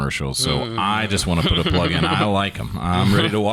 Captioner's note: laughing